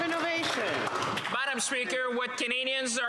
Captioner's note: applause